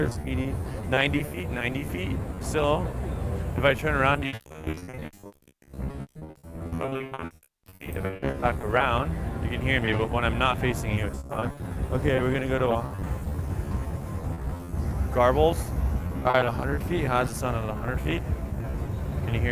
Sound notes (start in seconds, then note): 5.2 crackles